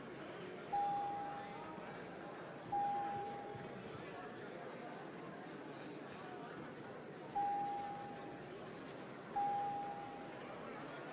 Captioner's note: bell Ringing